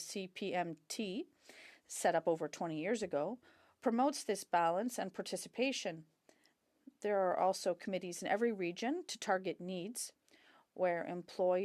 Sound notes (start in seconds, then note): 1.8 speaking French